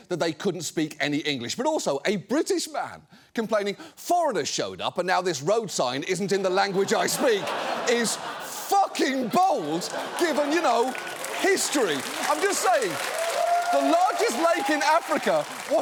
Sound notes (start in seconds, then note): 7.3 audience laughs; 11.3 audience applauds